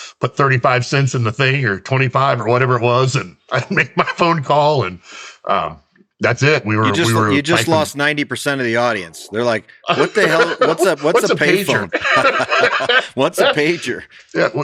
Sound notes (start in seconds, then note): 6.8 chuckles; 9.9 laughs; 11.9 both laugh